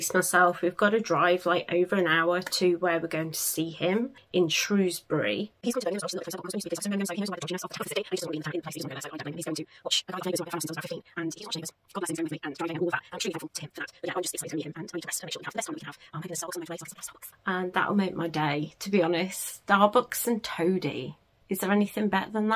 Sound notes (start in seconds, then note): 6.0 sped up talking sound